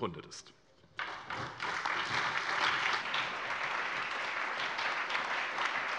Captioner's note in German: Allgemeiner Beifall